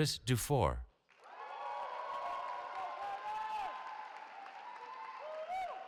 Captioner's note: cheering